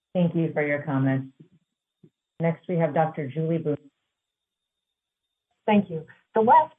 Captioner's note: audio cuts out